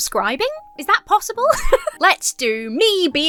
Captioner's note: laughs